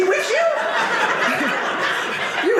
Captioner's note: audience laughing